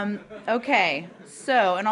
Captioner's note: laughter